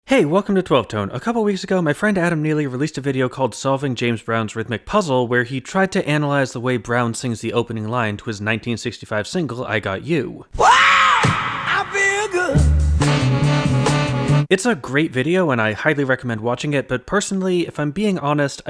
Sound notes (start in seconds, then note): 11.0 bang